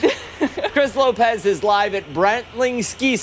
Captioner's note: laughter